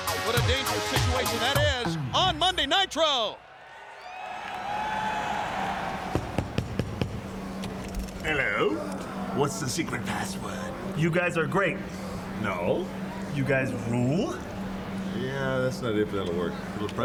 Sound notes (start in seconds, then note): 4.5 crowd cheering; 4.5 door knocking